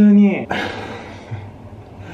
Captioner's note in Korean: 한숨